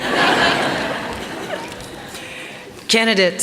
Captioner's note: laughter